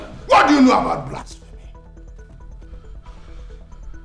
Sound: none

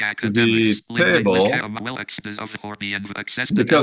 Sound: speaking gibberish

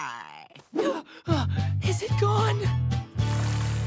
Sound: panting

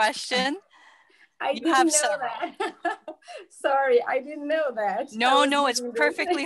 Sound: laughter

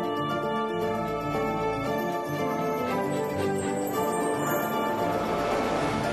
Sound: phone rining

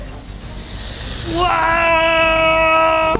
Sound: spraying sound

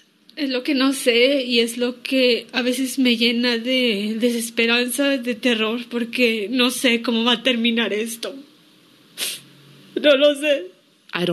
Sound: speaking in Spanish

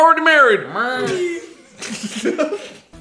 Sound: small moo; laughing

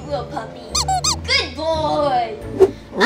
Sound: dog squeaking

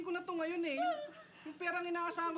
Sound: whines

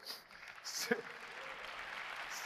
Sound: applause

